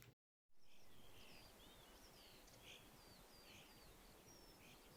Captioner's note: bird sounds